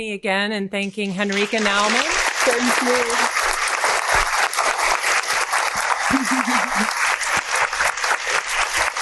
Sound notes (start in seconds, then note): 1.3 audience applauding